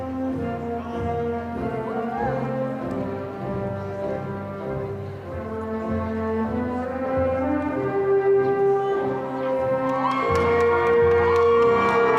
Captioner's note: cheering and applause